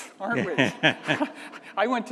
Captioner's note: audience laughing